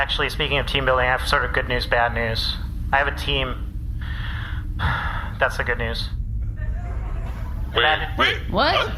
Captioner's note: sighs